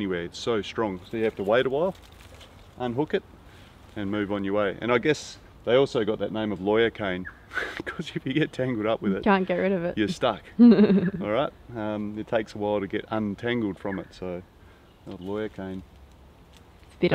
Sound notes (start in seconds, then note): 7.5 chuckles